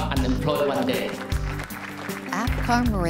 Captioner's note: applause